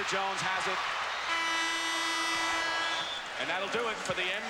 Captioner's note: horn blows